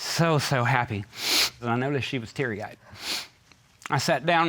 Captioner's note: sniffles